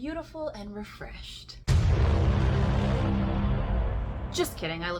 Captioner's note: doom sound effect